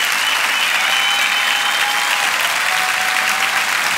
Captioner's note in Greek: το χειροκρότημα συνεχίζεται